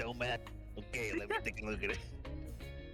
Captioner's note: laughs